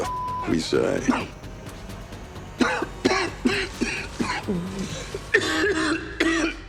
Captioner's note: beep; suspenseful music; Butcher coughing